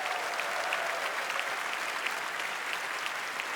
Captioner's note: applause